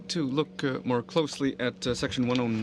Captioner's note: speaking French